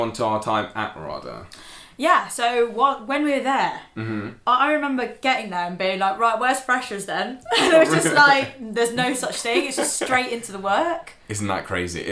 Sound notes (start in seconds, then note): 7.5 laughing